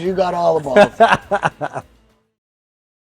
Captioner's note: laughs